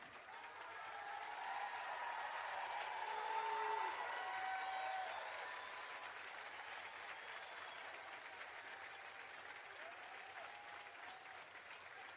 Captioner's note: applause and Cheering